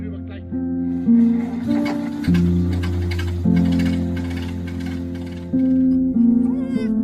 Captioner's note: engine starting; puppy whining